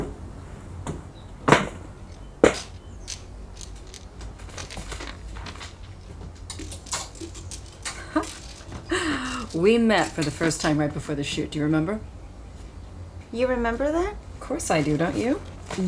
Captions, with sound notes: [chuckles] We met for the first time right before this shoot. Do you remember? You remember that? Of course I do. Don't you?